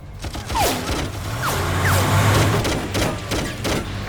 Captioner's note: gunshots popping